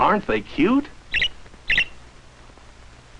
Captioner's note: chirping